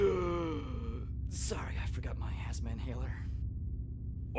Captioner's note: gasps